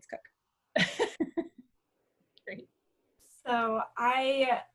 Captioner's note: chuckling